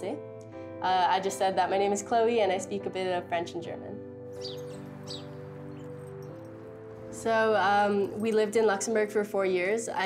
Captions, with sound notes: I just said that my name is Chloe and I speak a bit of French and German. (birds chirping) (somber music) So we lived in Luxembourg for four years.